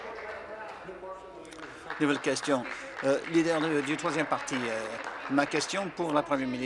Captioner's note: applause